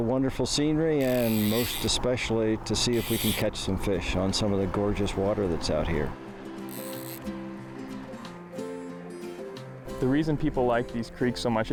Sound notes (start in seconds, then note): 5.5 upbeat music; 6.6 fishing line reeling